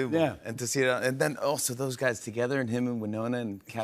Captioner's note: none